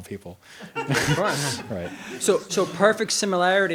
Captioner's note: audience member laughs